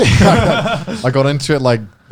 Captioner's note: laughs